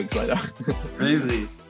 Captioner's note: laughs